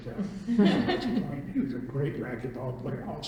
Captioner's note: laughter